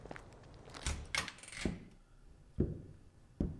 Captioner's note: door opens